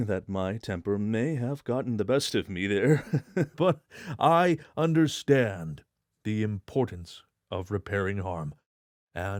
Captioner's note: chuckle